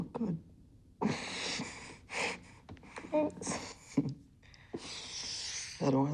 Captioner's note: laughter